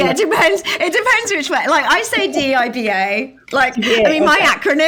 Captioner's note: laughing